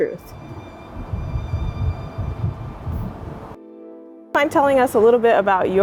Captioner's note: ethereal music; wind whooshing